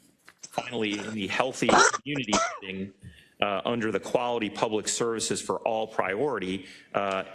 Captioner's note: cough